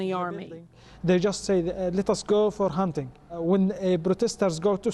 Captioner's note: through translator